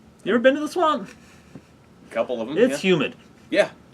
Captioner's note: none